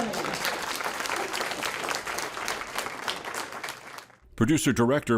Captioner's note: audience applauds